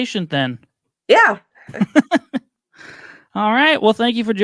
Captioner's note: laughing